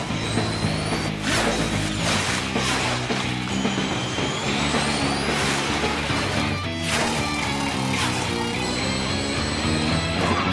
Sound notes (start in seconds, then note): 6.8 thud! whirl!; 8.8 whistle!